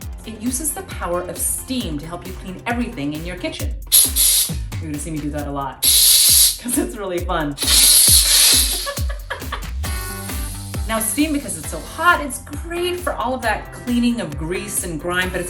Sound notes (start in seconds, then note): 3.9 steam shooting; 5.9 steam shooting; 8.7 laughing